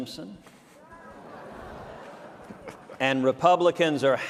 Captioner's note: awkward chuckles from audience